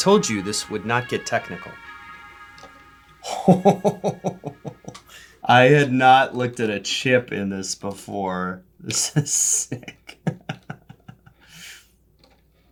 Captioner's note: giggles childishly